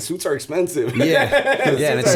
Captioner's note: laughter